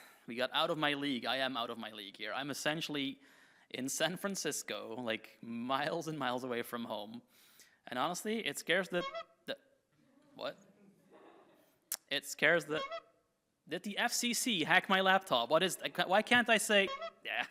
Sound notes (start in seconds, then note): 9.0 horn toots; 11.1 audience chuckles; 12.7 horn toots; 16.8 horn toots